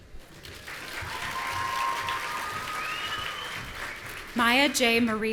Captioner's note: audience cheering